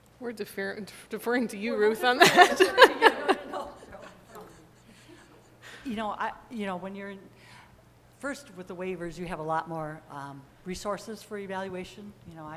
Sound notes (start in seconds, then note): 2.1 laughter